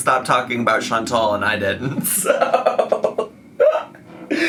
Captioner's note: laughs